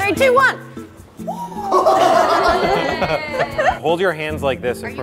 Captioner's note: group gasping; group laughing